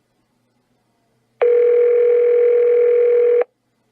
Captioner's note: phone rings